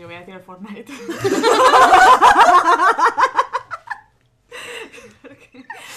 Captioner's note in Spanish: risas